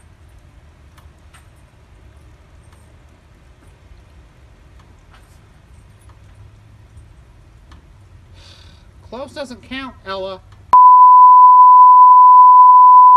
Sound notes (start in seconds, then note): 8.4 sighs